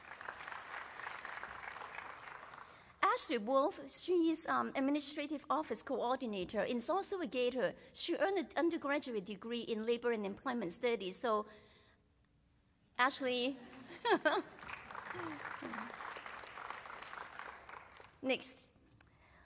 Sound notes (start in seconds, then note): 0.0 applause; 14.4 applause